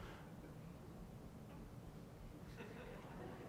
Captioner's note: laughter